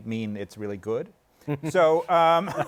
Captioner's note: laughter